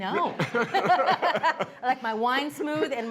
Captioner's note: both laughing